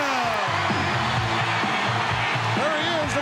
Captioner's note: audience cheering